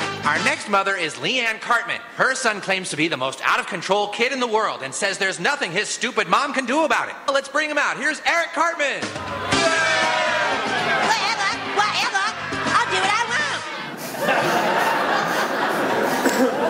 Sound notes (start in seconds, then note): 9.1 audience booing; 14.0 laughter